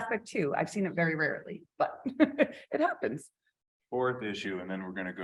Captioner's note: chuckles